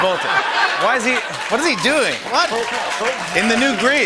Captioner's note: laughter